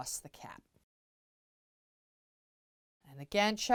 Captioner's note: no Sound Present